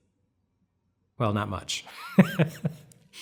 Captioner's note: laughs